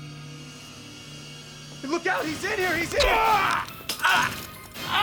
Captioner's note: screaming